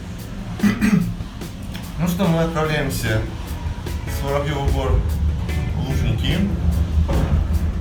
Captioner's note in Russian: кашляю